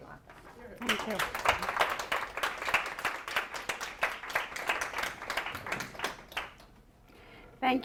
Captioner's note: applause